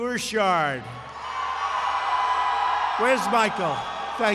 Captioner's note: applause